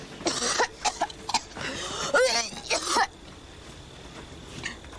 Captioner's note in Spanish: Tos y arcadas